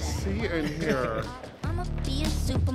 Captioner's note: person chuckling